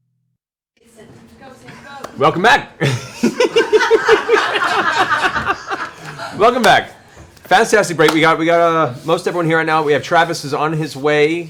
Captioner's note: giggles